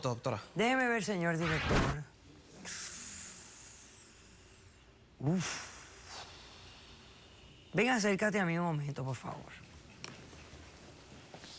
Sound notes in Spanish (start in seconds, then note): 2.6 aspiración prolongada; 5.4 soplido prolongado